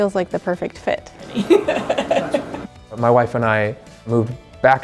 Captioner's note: laughing